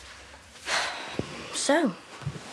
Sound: sighs

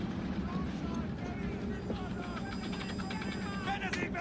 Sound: whirring and clicking

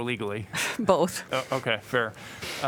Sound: laughter

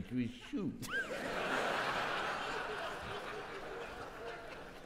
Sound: audience laughing

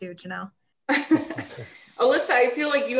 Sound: laughs

